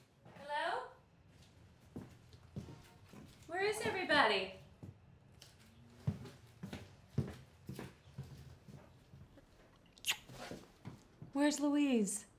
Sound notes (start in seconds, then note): 1.3 footsteps approaching; 9.8 kisses